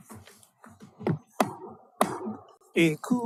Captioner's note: gavel bangs twice